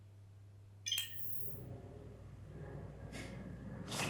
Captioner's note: end-transmission chime